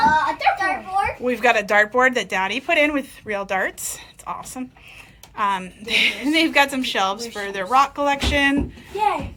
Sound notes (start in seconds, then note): 6.3 laughs